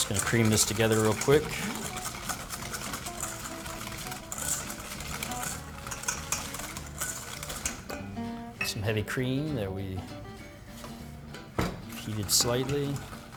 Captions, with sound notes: I'm just gonna cream this together real quick. (stirring) Some heavy cream that we fuse it slightly.